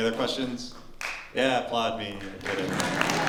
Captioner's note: light applause